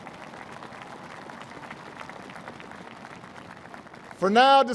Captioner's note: applause